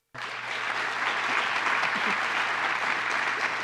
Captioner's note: applause